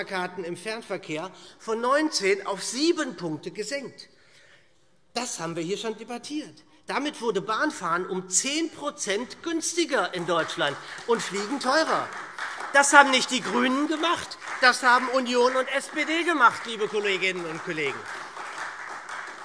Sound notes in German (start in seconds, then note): 12.2 Beifall SPD